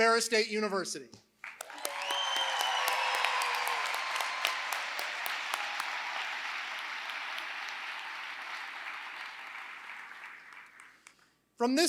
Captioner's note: applause